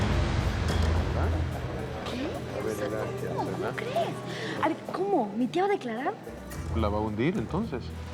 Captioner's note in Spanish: Murmullo de comentarios